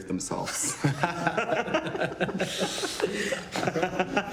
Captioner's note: all laughing